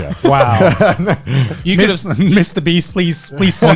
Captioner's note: laughing